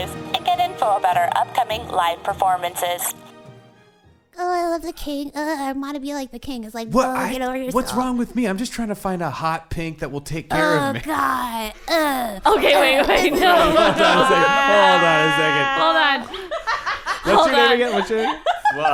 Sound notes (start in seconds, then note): 2.9 end credits music fades out; 12.4 laughing; 16.6 laughing, cracking up in the background